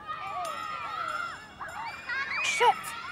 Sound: bell rings

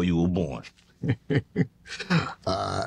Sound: laughing

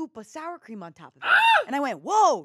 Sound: screams

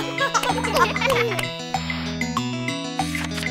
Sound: kids giggling; mom claps

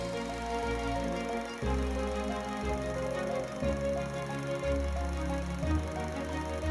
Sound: reel grinding; upbeat music

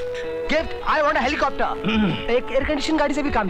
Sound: clears throat

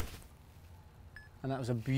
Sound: beep

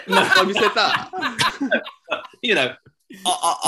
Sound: laughter

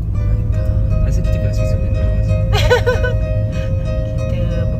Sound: background music; laugh

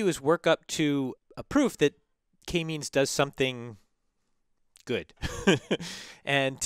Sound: laugh

